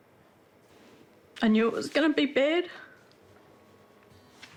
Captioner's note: weeps